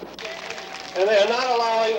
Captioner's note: applause